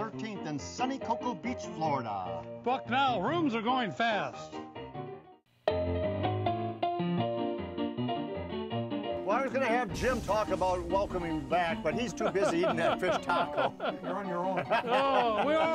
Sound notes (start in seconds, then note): 12.0 laughing